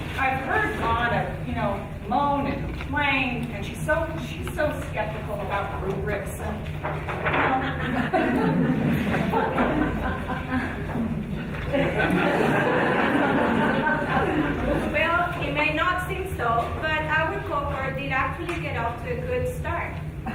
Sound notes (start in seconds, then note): 9.5 audience laughing